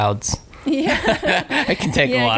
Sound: laughing

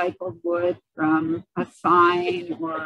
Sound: giggling

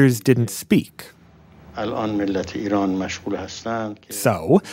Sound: Speaking Farsi

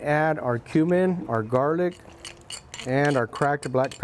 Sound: glass rasping

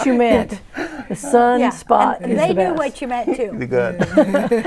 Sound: laughing; laughing

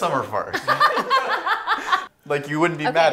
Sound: laughing

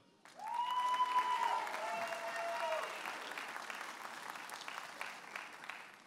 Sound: audience applauding and cheering

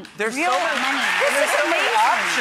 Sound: audience clapping

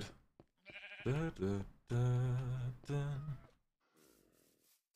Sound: hums

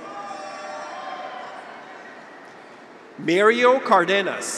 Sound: graduates cheer

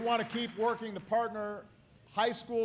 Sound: applause

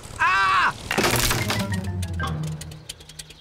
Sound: crunching

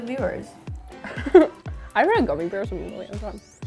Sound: laughter

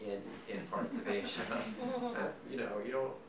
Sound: audience laughing

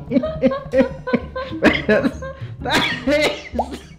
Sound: laugh

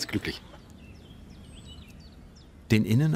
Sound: birds chirping

